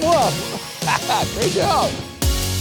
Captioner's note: laughing